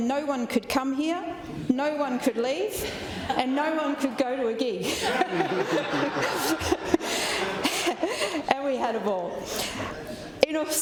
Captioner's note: laughter